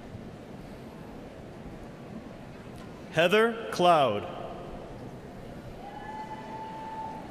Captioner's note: cheers and applause